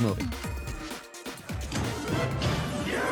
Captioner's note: Super Mario Bros Movie sounds